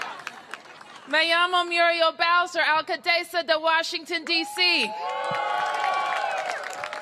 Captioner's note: cheers and applause; speaking spanish